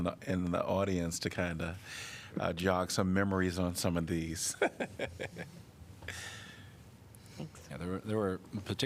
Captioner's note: laughter